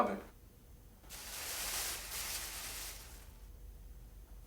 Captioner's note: plastic bag rustles